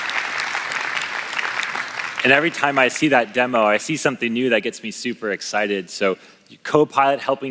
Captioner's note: applause